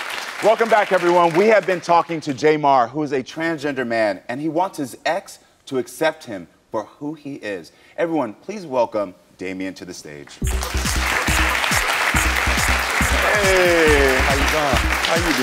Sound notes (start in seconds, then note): 10.4 upbeat music; 10.4 audience applauds